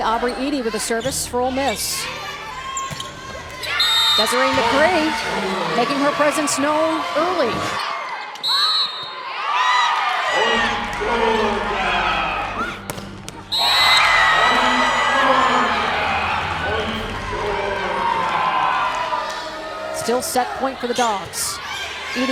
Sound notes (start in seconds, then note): 8.3 whistle blows, cheering; 10.7 voiceover; 19.6 voiceover